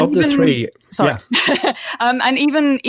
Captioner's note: laughs